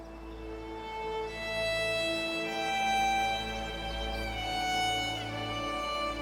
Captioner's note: birds chirping